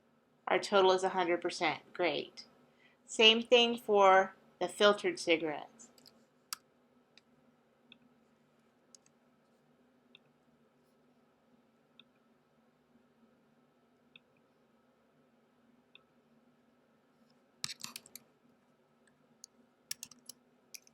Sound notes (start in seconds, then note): 5.9 long pause